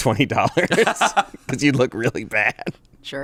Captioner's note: laugh